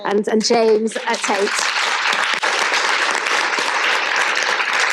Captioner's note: audience applauds